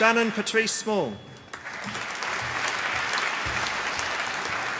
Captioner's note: applause